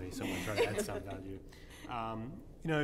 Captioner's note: laughter